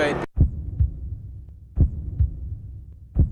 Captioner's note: deep heart beat